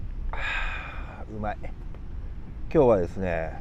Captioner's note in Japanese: ため息